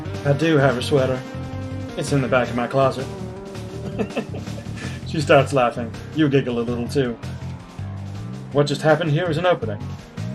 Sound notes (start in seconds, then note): 3.8 laughs